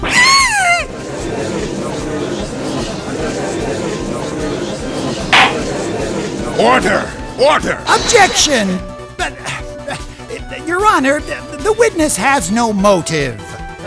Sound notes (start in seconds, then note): 1.5 gallery chattering; 5.3 gavel slams!